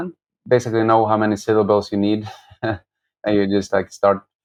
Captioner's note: laughter